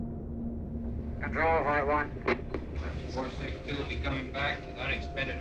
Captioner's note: radio chatter